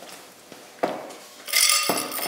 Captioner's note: clinking